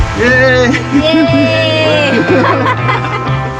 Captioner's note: cheering